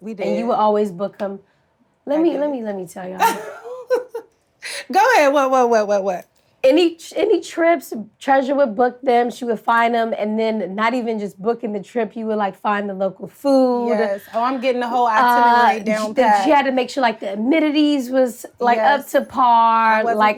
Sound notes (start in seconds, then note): 3.2 Treasure laughs